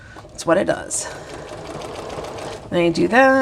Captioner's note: sewing machine whirring